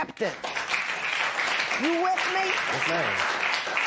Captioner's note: applause